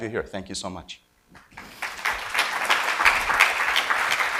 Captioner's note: audience applauds